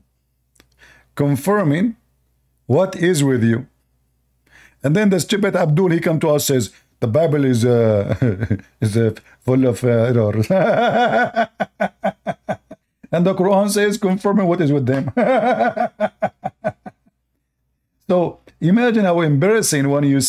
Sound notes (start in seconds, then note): 15.0 Ketawa